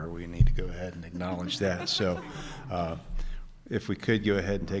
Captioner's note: audience chuckling